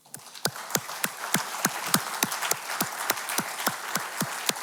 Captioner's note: audience clapping